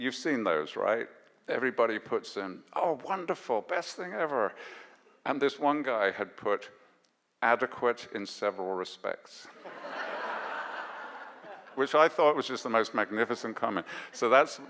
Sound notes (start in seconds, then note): 9.6 audience laughs